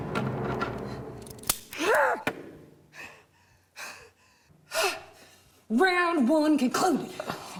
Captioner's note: shouts; panting